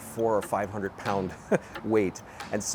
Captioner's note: laughs